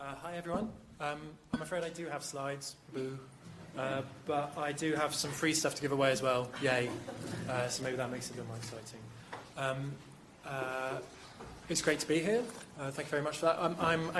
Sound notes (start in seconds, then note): 6.6 crowd laughing